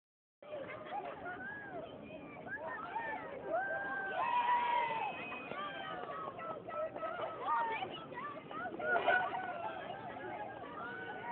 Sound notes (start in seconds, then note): 2.0 crowd Cheering; 11.1 crowd Laughing